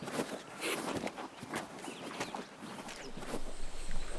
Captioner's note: Stacey sniffles